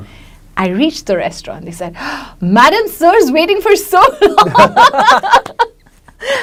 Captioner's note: laughs